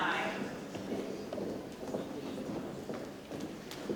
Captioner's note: shoes tapping